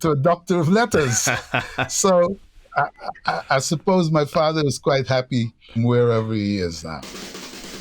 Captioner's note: laughter